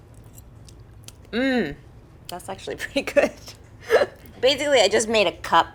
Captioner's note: chuckling